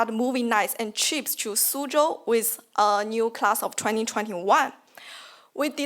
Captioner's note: speaks foreign language